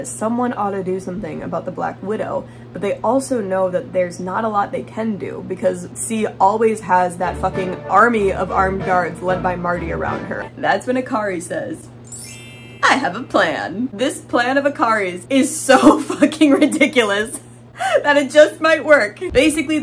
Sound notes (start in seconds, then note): 12.1 ding sound; 15.2 laughing